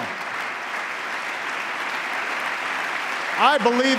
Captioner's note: applause